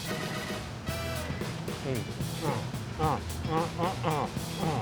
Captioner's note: happy humming